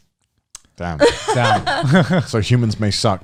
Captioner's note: laughs